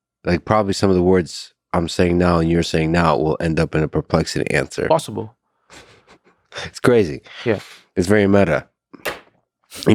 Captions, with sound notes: Like probably some of the words I'm saying now and you're saying now will end up in a Perplexity answer. - Possible. (Lex chuckling) - It's crazy. - Yeah. - It's very meta.